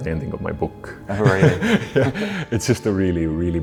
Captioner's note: laughs